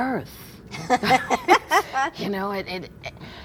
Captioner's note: laughs